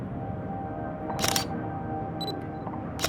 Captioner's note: sound of camera shutter clicking